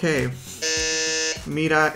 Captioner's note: buzzer buzzing